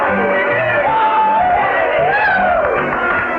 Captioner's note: cheering